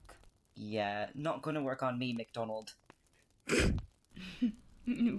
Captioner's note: Marlene snorts